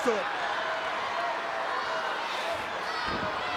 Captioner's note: crowd yelling